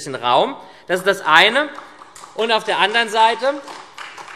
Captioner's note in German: Beifall SPD und Freie Demokraten